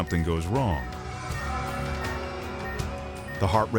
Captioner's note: monitor beeping